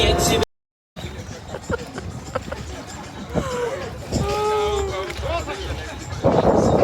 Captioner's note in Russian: смех